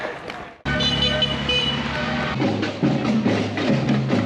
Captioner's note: car honking; drums